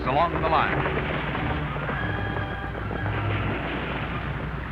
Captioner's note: horses trotting